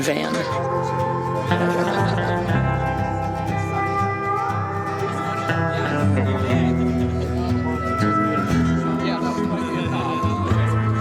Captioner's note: crowd talking, laughing